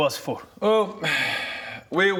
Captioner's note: sigh